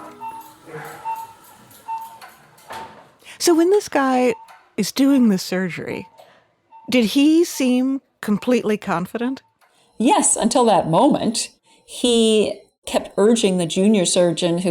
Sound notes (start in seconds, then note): 0.0 machine beeping